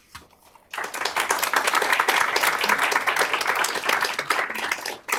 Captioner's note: applause